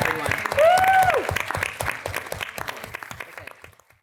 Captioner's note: audience clapping